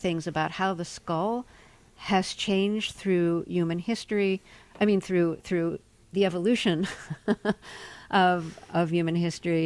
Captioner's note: laughter